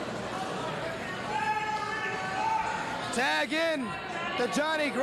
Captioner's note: cheers and applause